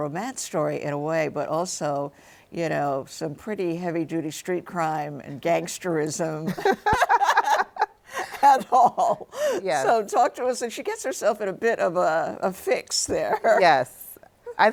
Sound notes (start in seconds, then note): 6.5 both laughing; 13.3 laughs